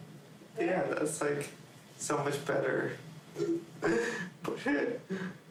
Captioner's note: chuckling